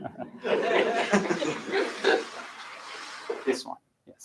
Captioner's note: laughter